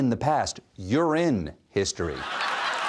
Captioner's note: laughter